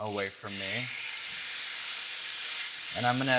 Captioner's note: steak sizzling